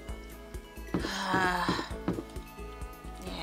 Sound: heavy sigh

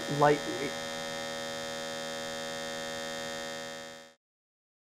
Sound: machine buzzing

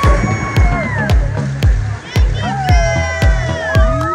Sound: crowd cheering

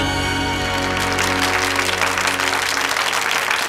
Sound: applauding

